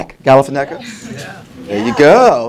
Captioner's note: multiple people saying yes